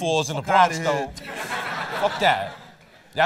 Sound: laughter

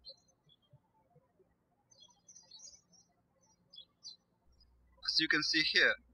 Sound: birds chirping

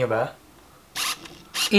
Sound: autofocus motor sound

